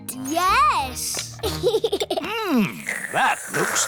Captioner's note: giggles